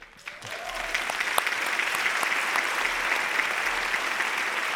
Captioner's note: audience applauding